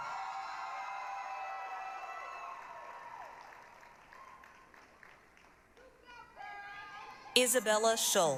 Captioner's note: applause, cheering